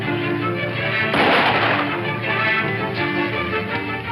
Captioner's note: gunshot